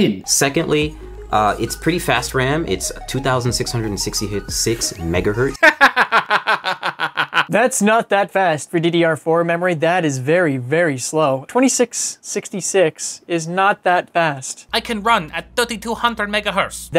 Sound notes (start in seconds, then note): 5.6 laughs